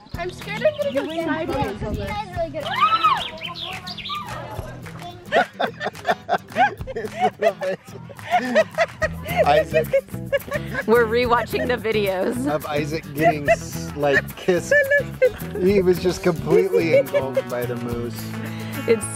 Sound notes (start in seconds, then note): 2.9 excited chatter; 5.2 laughter